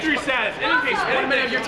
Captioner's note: indistinct chatter